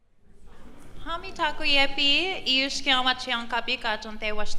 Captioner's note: non-english speech